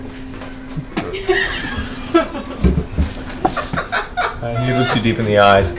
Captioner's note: all laugh